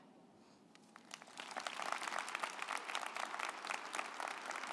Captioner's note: group applauding